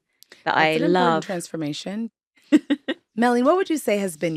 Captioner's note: laughing